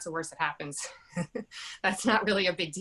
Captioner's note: chuckles